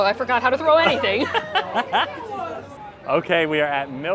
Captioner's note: laughing